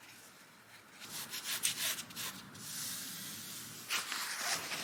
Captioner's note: noises as material is rubbed down